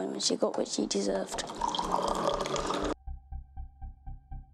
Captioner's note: dripping